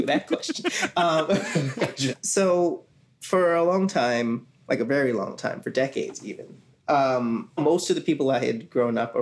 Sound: laughs

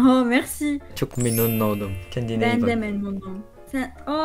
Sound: Turkish

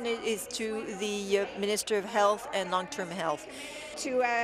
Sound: speaking in French

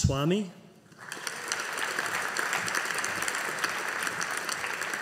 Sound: audience applauding

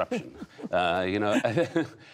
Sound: laughter

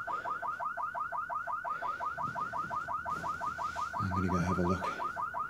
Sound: car alarm blaring

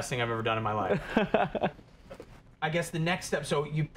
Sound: laughs

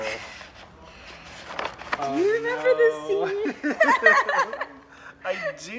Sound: laughs

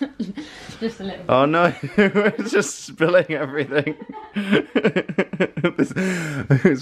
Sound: laughing

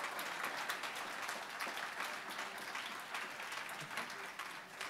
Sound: cheering and applause

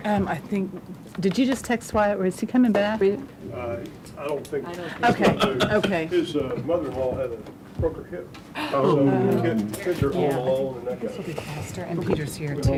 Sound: chatter

